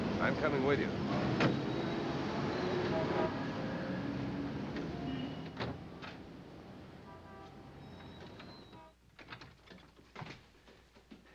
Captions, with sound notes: I'm coming with you. (Horns honking)